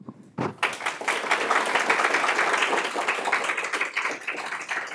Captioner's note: audience applauds